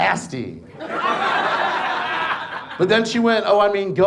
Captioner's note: audience laughs